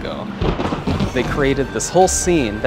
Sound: thunder rumbling

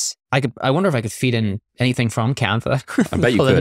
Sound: chuckles

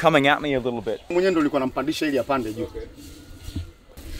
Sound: tribe member speaks in foreign language; speaks in foreign language

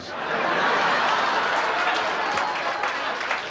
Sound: laughter

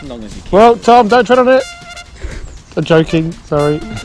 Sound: laughing

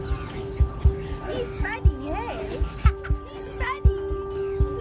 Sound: gentle music; child laughs

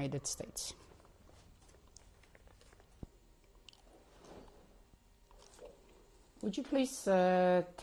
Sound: pauses for 6 seconds

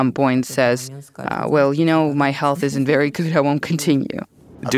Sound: laughs

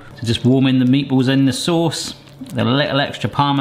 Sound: none

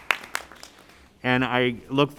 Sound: applause

